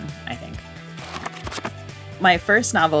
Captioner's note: pages flipping